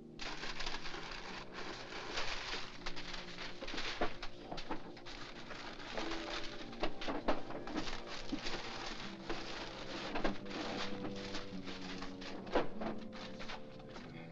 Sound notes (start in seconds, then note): 0.1 papers rustling; 3.9 sound of rummaging